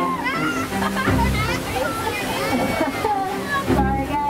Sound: laughs

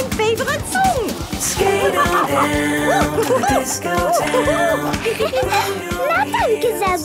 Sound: laughing and exclaiming

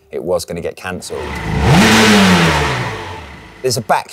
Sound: engine revving

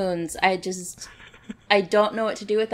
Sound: laughs

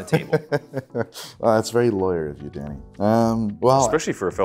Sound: laughing

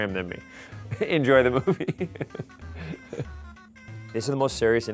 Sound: laughing

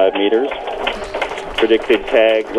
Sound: clapping and cheering

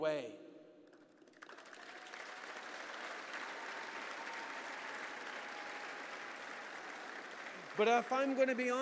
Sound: applause

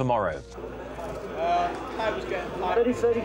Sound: people chattering

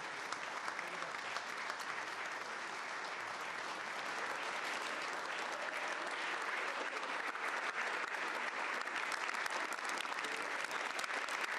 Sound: applause

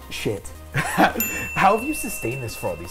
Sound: chuckles; bell dings

